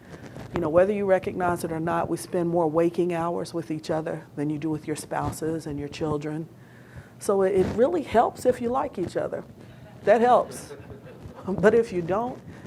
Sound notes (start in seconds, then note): 10.4 audience laughing